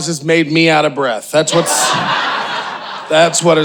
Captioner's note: audience cheering